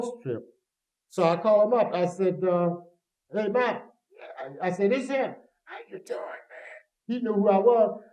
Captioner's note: whispers